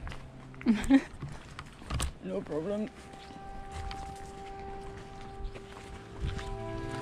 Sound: fake deep voice; laughs, then in fake deep voice

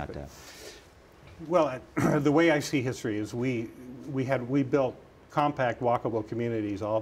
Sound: cough

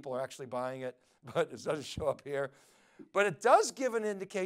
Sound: laughs

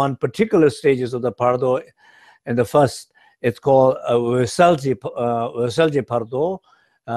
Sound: speaks Tibetan

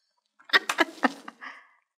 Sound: laughter

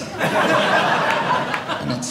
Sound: audience laughing

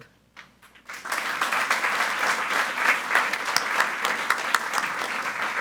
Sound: group applauding

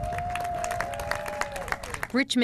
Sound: clapping and cheering

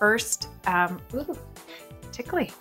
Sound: giggles

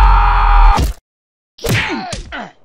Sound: slpat; punch

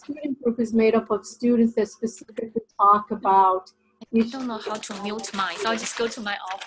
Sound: background interference

